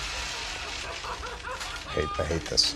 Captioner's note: laughs maniacally